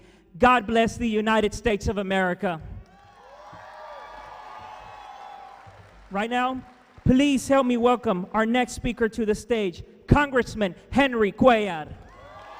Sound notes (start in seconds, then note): 2.8 audience cheering